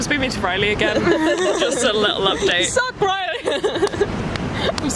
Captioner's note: laugh